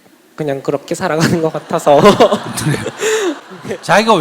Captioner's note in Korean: 질문자와 청중 웃음